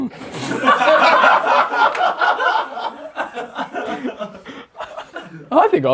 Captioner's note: audience laughs; laughs